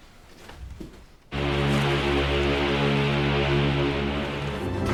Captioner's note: ship's horn sounds